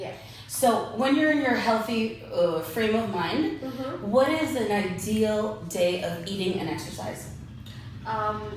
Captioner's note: hmm hm